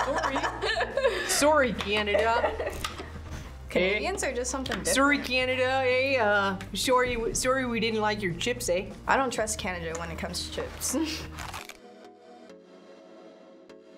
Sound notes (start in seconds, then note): 0.0 laughs; 11.7 laughs